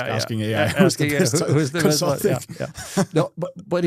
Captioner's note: laughing and joking